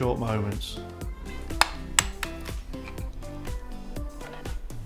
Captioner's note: plastic clicking